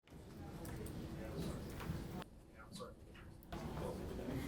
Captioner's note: muffled chatting